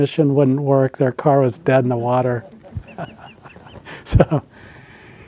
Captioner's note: laughs